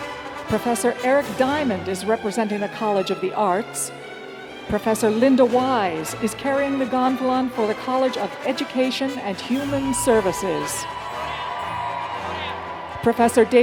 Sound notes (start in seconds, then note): 9.4 cheers and applause